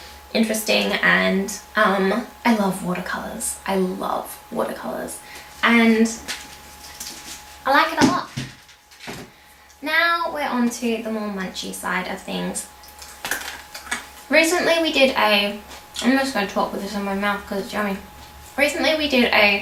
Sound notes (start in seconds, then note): 12.4 crunch